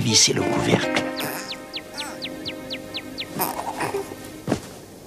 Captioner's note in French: En grognant